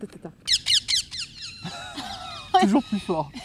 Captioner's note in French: Cris d'oiseaux